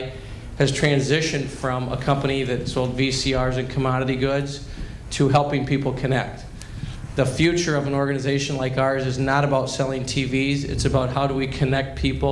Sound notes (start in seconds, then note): none